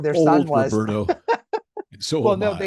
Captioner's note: laughs